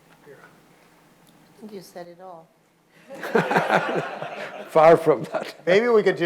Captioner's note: audience laughing